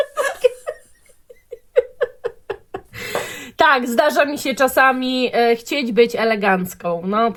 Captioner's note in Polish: śmiech